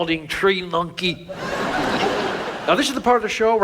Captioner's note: audience laughs